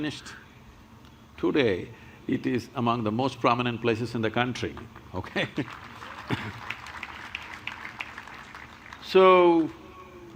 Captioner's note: laughs; applause